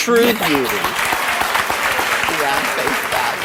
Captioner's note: audience applause